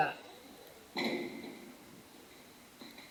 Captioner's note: elevator noises